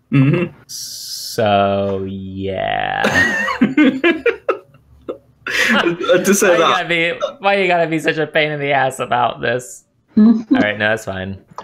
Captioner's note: laughter